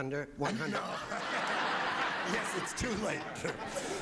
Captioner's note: audience laughing